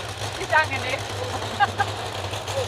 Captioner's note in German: Lachen